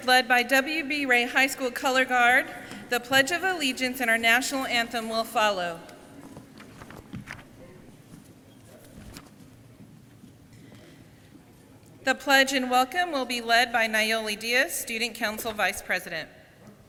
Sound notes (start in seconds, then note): none